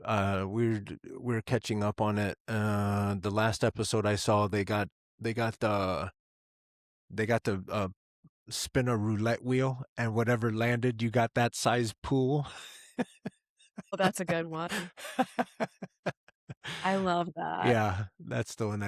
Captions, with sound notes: we're catching up on it. The last episode I saw, they got to spin a roulette wheel and whatever landed, you got that size pool. Well, that's a good one. (Laughing) I love that. Yeah, that's the one